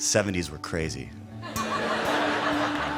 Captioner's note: laughter